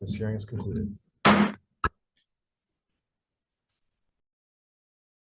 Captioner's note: gavel taps